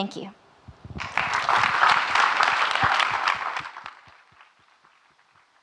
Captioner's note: audience clapping